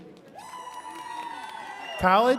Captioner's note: attendees cheering and clapping